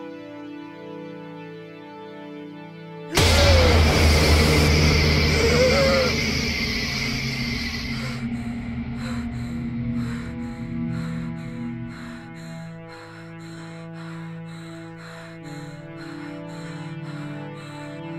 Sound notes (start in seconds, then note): 2.7 intense music; 2.7 woman gasping; 6.7 woman breathes heavily